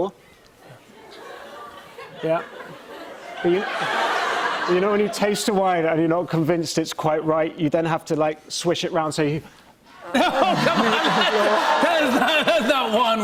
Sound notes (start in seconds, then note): 1.0 laughter